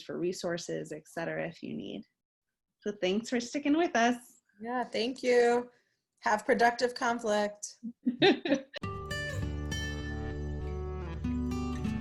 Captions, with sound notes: for resources et cetera, if you need to. So, thanks for sticking with us. - Yeah, thank you. Have productive conflict. (both laughs) (upbeat music)